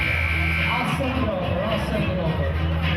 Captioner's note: buzzer sounding